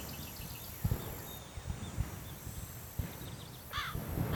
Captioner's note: gun banging